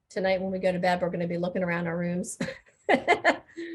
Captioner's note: laughing